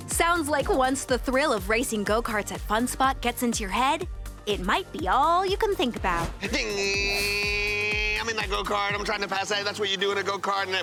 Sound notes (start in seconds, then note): 6.7 imitates car engine revving